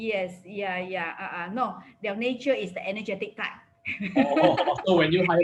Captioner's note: laughs